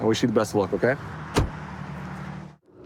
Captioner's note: door bangs